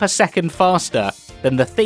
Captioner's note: none